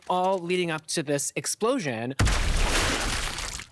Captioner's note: guts splattering